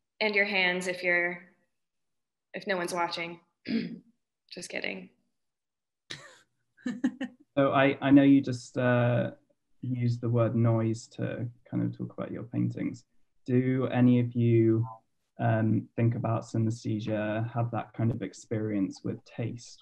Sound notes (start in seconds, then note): 3.7 clears throat; 7.6 laughs